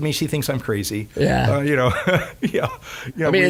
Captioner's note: laughing